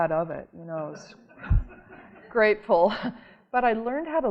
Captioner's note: audience laughing